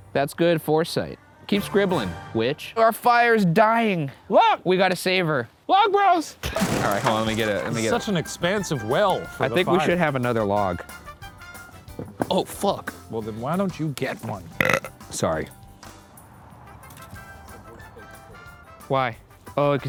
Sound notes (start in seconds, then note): 14.5 burps